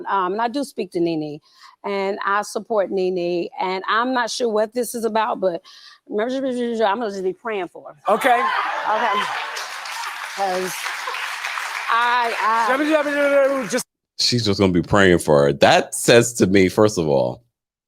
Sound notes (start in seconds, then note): 8.1 crowd clapping; 12.9 speaking gibberish